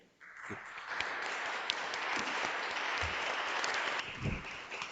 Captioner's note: audience applauds